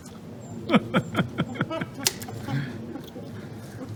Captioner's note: laughs